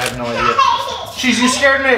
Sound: child laughing

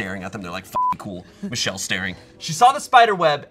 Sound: beep

